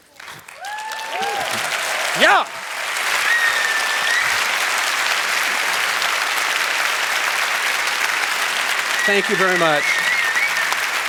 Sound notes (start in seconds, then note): 0.2 applause; 3.3 applause; 3.3 cheers